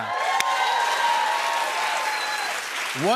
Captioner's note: cheers and applause